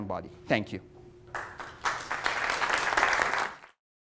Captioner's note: applause